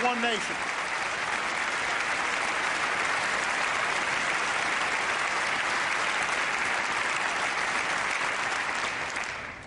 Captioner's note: applause